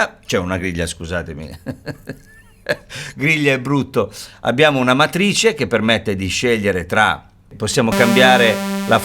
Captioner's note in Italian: risate